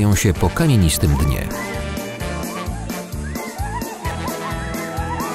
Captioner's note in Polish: krzyki, śmiechy